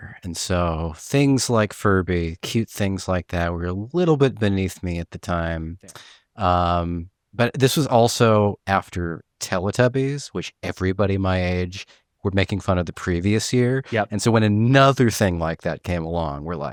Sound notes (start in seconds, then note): none